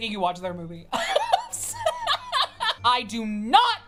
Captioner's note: laughing